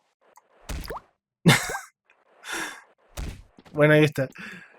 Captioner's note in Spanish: risa